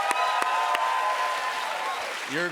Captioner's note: cheers and applause